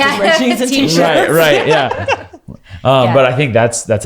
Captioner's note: laughing; laughs